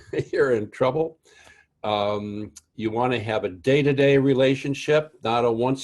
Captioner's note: laugh